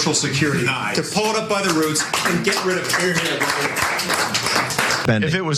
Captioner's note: applause